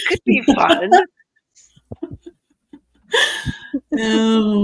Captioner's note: participants laughing